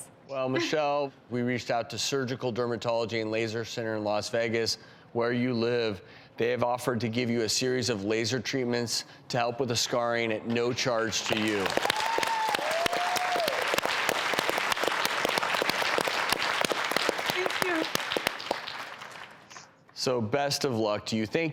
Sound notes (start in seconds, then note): 11.2 audience clapping